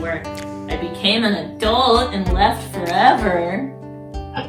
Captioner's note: sarcastic tone